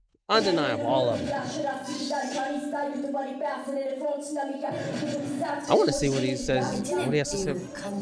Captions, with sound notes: Undenive all of them. (speaking in foreign language) I wanna see what he says. What he has to say.